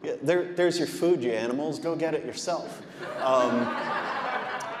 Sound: audience laughing

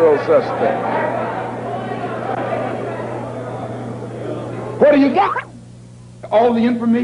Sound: murmuring; video skips

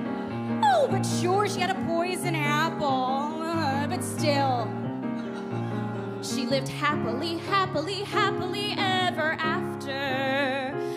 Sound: mockingly

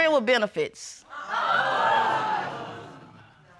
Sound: audience exclaims

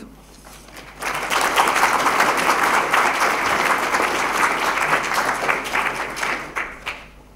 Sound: applause

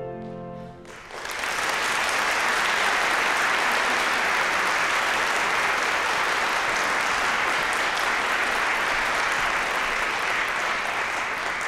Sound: bright piano music; applause

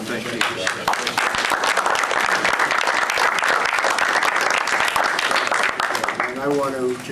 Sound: applause

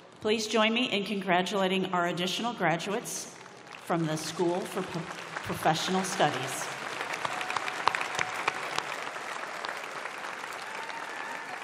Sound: applause

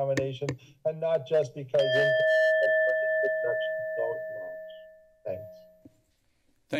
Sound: bell sound

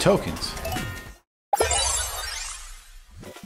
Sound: happy Token Sounds

